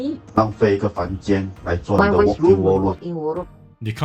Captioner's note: in Mandarin